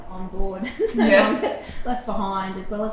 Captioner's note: both laughing